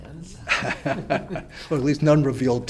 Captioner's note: laugh